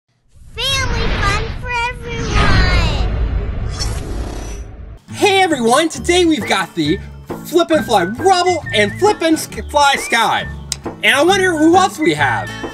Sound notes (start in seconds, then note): 3.1 metallic swooshing